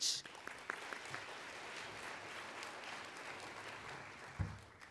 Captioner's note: applauding